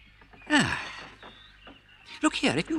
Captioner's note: sighs